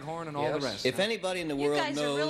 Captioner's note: laughing